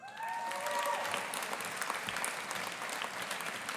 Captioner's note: audience applauding